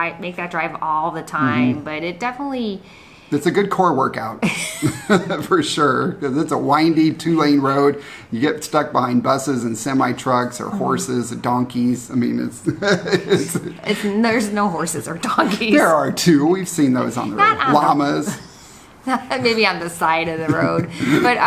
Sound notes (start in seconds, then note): 4.4 both laugh; 12.6 laughs